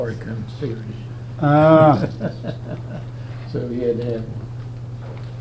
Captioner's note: Richard chuckling